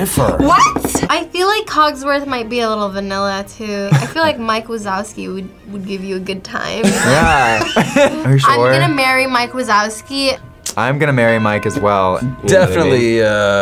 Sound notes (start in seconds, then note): 3.9 laughs; 6.8 React laughs; 6.8 laughs